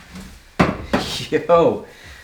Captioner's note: glass thumping